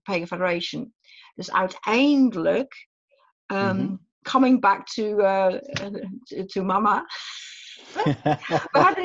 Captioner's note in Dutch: lacht